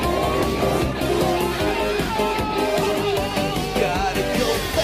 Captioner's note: screams